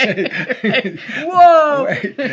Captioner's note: both laughing